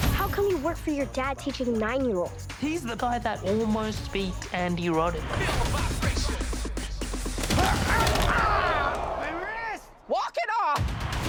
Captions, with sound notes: How come you work for your dad teaching nine-year-olds? He's the guy that almost beat Andy Roddick. - [grunting, groaning] My wrist! - [crowd groaning] Walk it off!